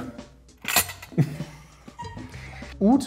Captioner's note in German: Lautes Klimpern